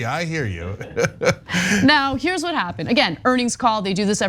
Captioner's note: laugh